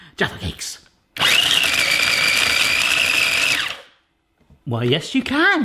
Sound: processor blending

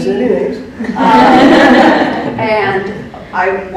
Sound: women laugh

